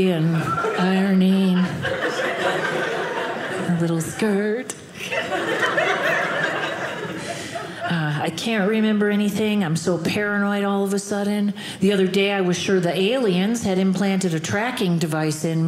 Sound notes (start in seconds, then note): 4.9 audience laughing